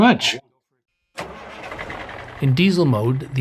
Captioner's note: engine cranking